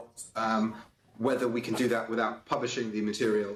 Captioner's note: broken audio